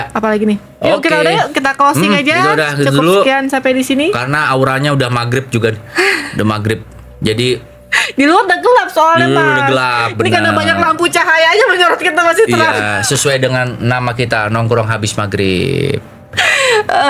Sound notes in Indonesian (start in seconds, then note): 6.6 tertawa